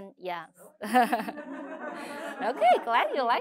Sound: laughter

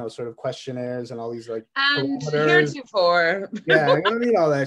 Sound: mocking; laughs

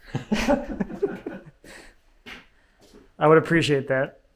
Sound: both laugh

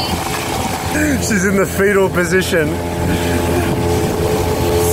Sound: laughs

